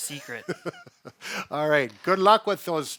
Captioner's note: laughs